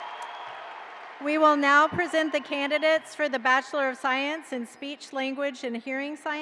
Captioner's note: cheers and applause